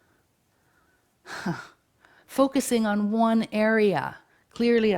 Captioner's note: chuckles